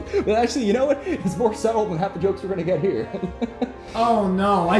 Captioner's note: chuckles